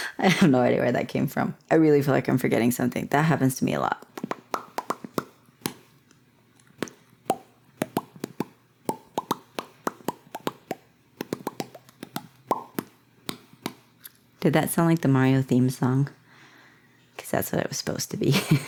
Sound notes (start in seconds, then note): 4.1 beatboxing the Mario theme